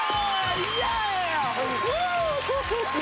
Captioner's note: dinging